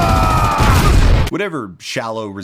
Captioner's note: explosion